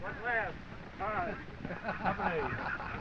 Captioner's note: laughing